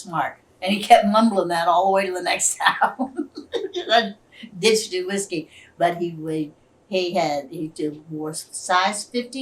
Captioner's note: laughs